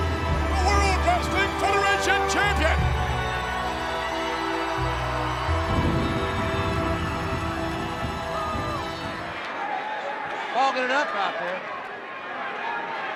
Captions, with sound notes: the World Wrestling Federation champion. (ominous music continues) (audience continues cheering) Causing it out there.